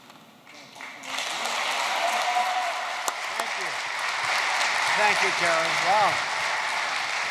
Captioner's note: applause